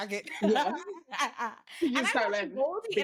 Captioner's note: laughs